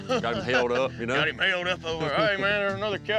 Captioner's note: chuckling